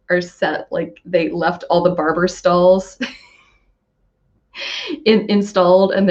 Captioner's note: laughs